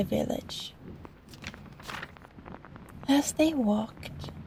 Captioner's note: page turn